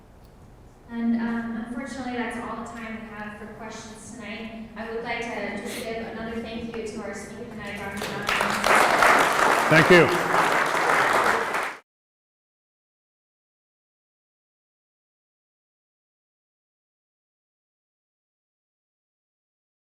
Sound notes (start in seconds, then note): 7.7 loud audience clapping